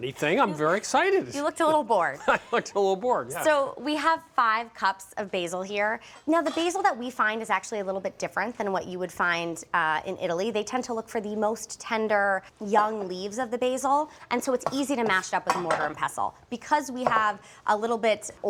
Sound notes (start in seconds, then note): 2.2 laughing